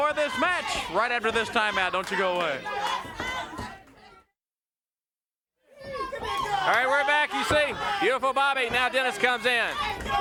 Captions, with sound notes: of this match right after this time out. Don't you go away. (crowd clamoring) Alright, we're back. You see Beautiful Bobby, now Dennis comes in,